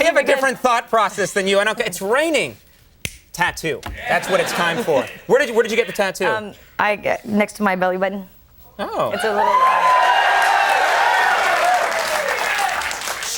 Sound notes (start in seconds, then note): 9.2 audience cheering; 9.2 audience cheers drown out speaker